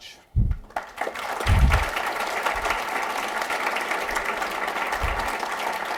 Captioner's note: applause